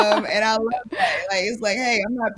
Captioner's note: laughs